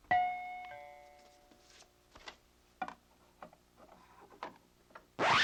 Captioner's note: doorbell ringing